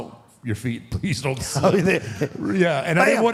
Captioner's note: AJ laughs